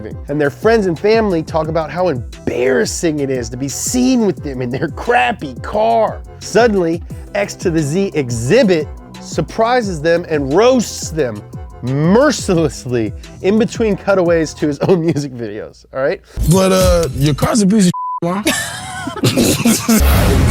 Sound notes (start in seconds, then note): 17.9 beep; 18.4 both chuckle